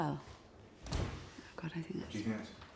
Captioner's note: door slams